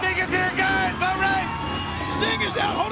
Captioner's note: motorbike revving